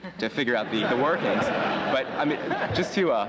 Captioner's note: laughter